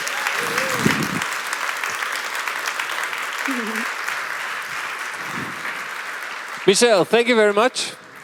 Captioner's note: applause